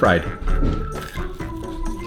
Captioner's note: crunch